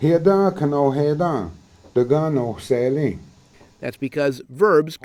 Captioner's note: speaking cherokee